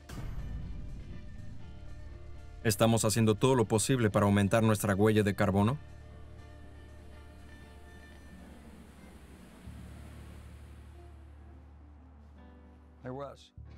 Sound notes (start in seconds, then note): 0.2 fire roaring; 11.0 water burbles